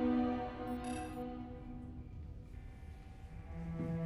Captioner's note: computer trills